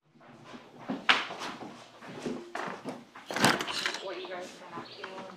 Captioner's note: footsteps shuffle